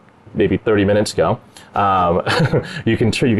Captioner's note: laugh